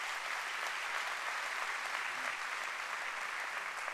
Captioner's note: applause